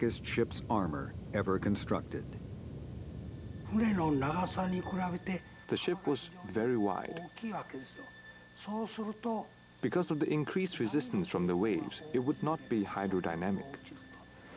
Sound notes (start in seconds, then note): 3.5 speaking Japanese